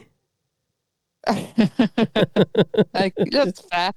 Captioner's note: laughs